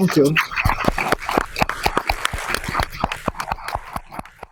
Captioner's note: audience applauding